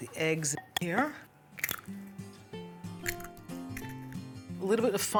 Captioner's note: cracking open the eggs